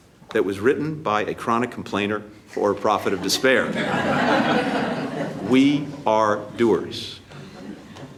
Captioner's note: laughter